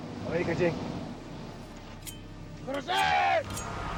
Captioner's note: speaking foreign language; shouting in foreign language